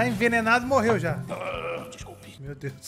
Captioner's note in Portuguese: arroto